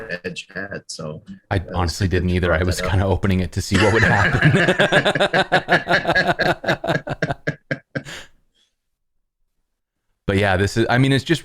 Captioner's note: laughter